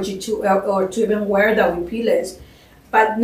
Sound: spanish

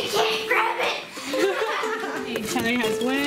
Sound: laughing

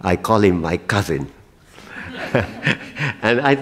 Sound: laughter

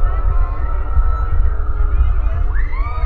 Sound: none

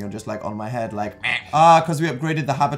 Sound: duck noise

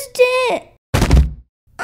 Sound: thud!

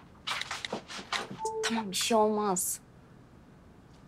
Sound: message tone

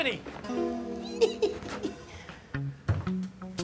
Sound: laughs

